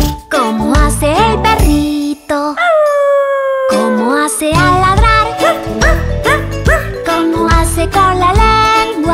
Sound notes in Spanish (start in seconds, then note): 2.6 Aullido; 5.4 Ladrido